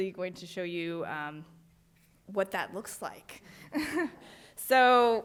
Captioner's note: laughs